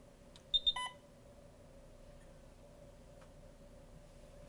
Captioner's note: Alaris pump beeps